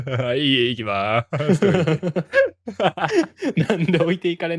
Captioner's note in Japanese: 笑い